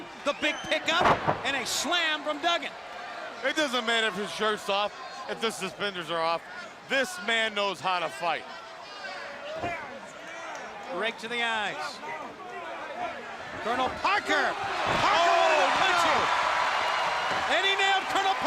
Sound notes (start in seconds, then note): 8.2 crowd chatter; 16.5 crowd cheering